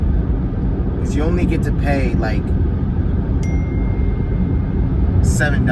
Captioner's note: phone chimes